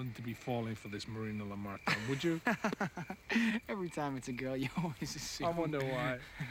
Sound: chuckling

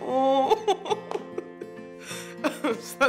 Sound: laughs

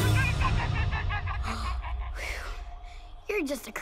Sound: chattering; sighing

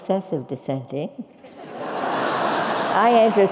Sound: laugh

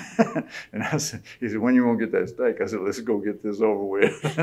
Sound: laughter

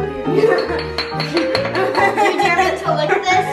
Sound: laughing

